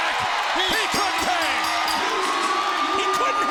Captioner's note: bell rings